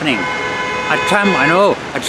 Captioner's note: car honks